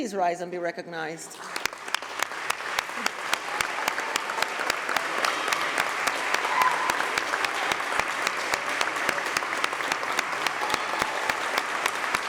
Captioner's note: applause